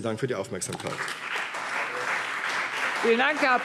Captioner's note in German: Anhaltender Beifall CDU und BÜNDNIS 90/DIE GRÜNEN